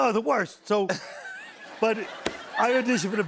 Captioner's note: laughter